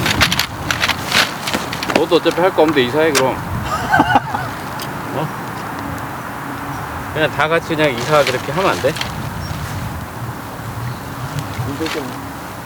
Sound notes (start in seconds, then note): 3.5 laughing